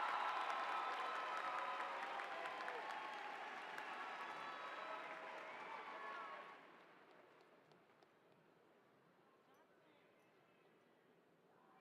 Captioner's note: applause